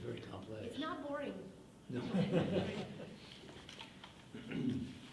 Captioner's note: laughing